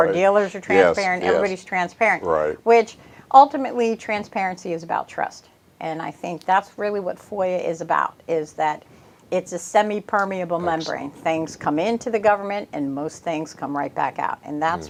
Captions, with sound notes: You know, car dealers are transparent. Everybody's transparent. - [chuckles] Yes, right. - Ultimately, transparency is about trust, and I think that's really what FOIA is about, is that it's a semi-permeable membrane. Things come in to the government and most things come right back out,